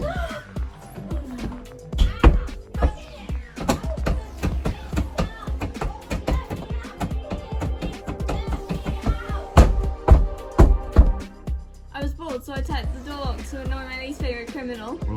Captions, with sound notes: [gasps] Oh no. [exciting synth music] Argh! Can't get it open! It's stuck! Oi, let me out! Do you hear me? Let me out! [banging on door] [exciting synth music] [banging on door] [exciting synth music] I was bored so I typed the door locked to annoy my least favorite criminal. [exciting synth music]